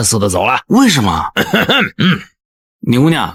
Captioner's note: cough cough